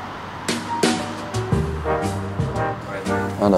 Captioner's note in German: Ferner Verkehrslärm, lässige Musik